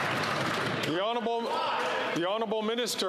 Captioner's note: applause